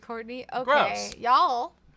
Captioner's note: snaps fingers